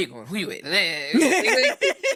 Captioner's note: laughing